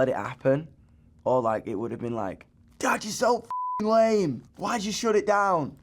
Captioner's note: beep